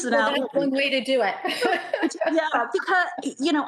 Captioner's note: laughs; laughs